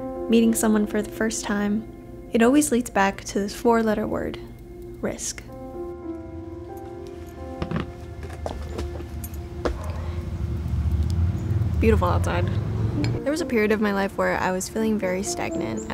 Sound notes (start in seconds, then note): 7.5 chair thuds